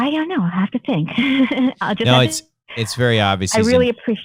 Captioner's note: laughter